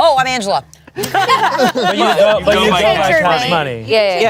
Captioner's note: everyone laughs